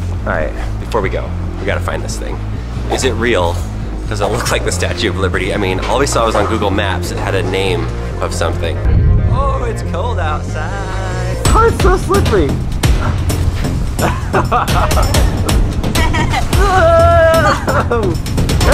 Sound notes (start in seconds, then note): 14.0 both laughing